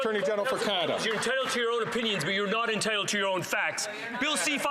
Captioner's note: some Applause